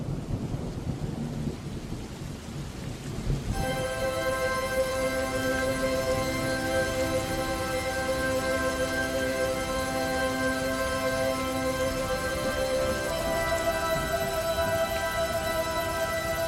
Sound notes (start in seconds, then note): 0.0 rainfall, thunder; 3.6 rainfall, thunder, haunting music